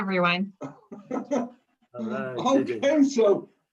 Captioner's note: laughs